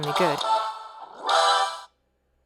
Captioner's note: boot-up sound